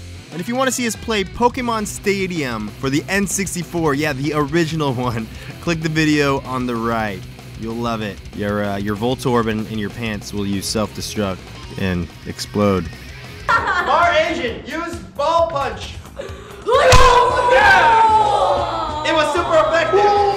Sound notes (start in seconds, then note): 13.4 laughter; 16.9 groaning